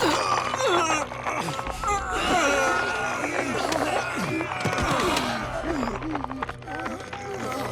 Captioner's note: groaning